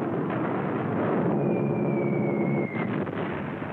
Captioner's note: bombs whistling; explosion